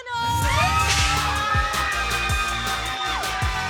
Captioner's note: raucous cheering